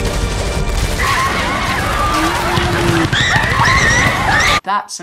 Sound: dramatic music; people screaming

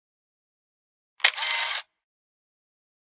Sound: sound of camera click

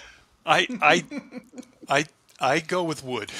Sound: laughs; laughs

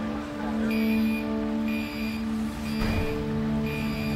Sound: beeping

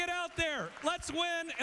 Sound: cheers

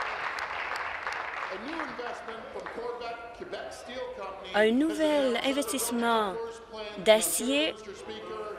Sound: applause

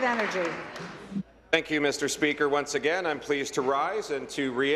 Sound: applause

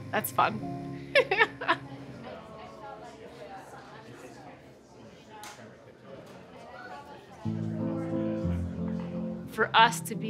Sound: laughter

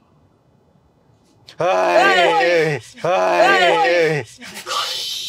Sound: grunts

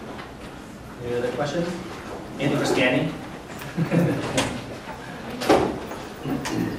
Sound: laughs

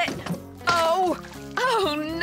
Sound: splat!

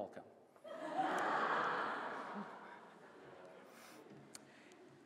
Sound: laughter

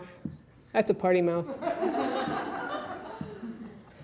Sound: audience titters

